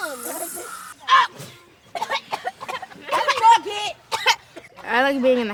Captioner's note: sneezes and coughs